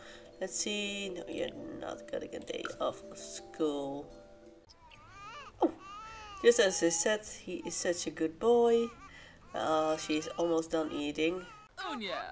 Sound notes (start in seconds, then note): 4.7 baby crying